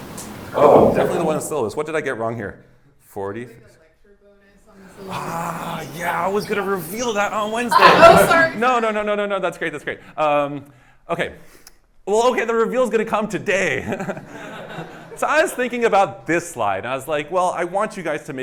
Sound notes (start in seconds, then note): 14.0 laughs